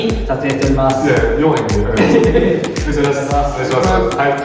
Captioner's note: laughs